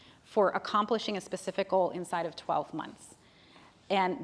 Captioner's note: none